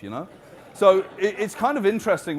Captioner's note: audience laughing